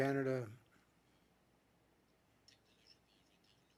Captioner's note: speaking French